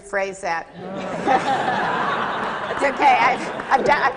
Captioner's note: laughter